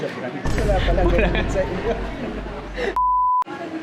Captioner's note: laughs